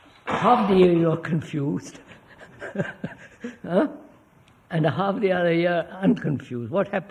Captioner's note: laughs